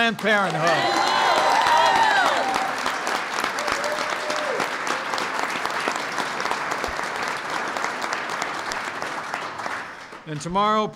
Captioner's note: applause